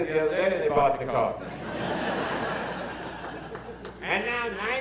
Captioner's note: audience laughter